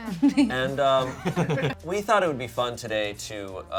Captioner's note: laughing